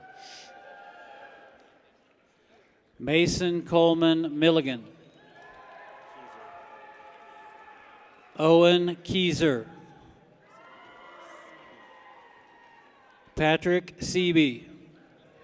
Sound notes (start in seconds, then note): 0.0 people cheer; 5.0 people cheer; 10.8 people cheer